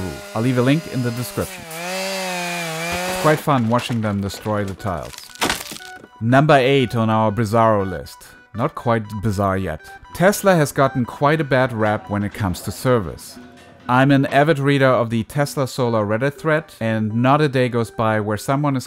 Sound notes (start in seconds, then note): 1.9 chainsaw buzzing